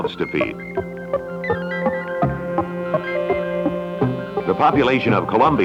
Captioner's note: Electronic audio effects